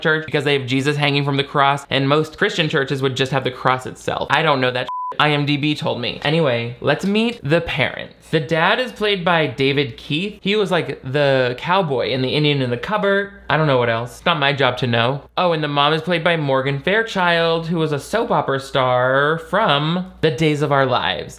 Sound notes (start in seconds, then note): 4.8 beep